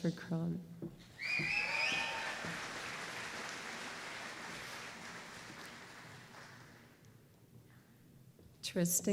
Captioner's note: applause